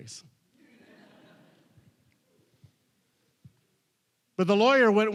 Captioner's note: audience laughing